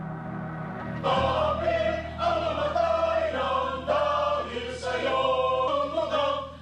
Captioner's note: members speaking in foreign language